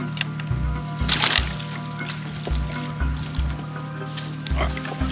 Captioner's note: water splashing